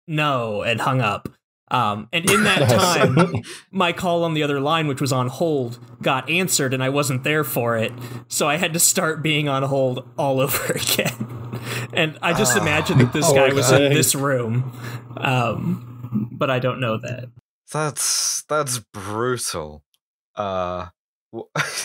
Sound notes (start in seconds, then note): 2.2 laughter; 12.3 deep collective sigh of anguish